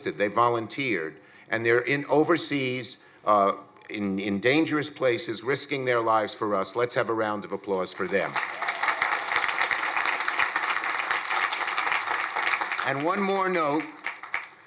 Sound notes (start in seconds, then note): 8.2 crowd applauding